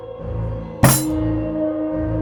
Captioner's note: hitting the table